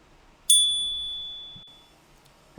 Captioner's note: chime